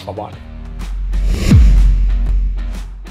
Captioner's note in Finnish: siirtymä-äänitehoste